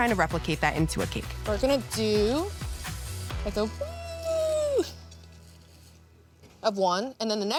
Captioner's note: squeals